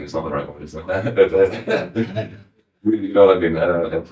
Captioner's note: laughing